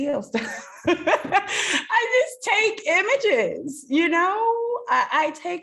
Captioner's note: laughs